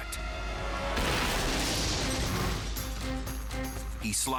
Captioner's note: crashing